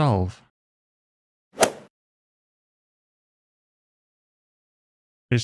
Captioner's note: golf ball hit sound